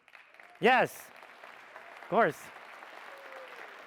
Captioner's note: audience applauds